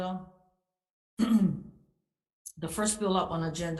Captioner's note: clears throat